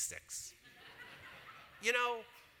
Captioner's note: audience laughs